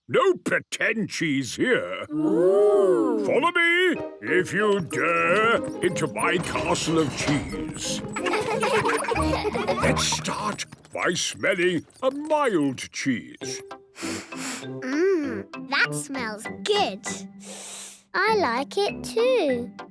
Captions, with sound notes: No pretend cheese here! - Oooh! - Follow me, if you dare, into my Castle of Cheese! Let's start by smelling a mild cheese. - (sniffs) Mmm... That smells good. - (sniffs) I like it too!